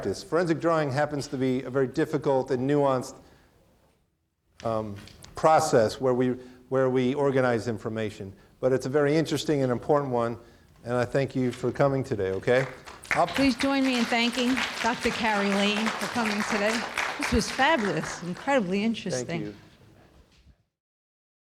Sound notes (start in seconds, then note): 16.7 audience clapping